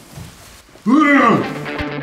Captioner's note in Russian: ворчит еще громче